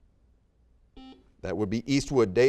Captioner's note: buzzer beeping